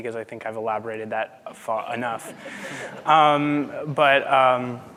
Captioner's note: audience laughing